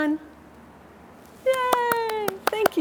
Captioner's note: claps